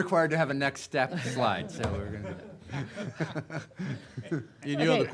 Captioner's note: laughing